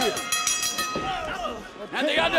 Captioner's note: bell ringing